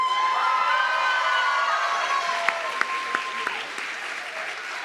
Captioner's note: audience clapping and cheering